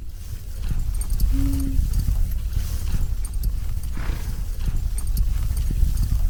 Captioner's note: wind blowing